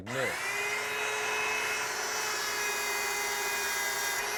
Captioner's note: belt turns on